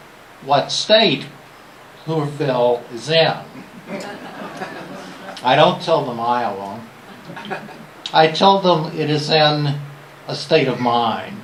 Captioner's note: laughter